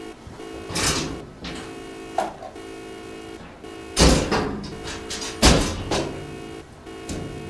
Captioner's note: beeping; clanking; beeping